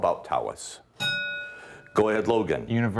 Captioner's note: ding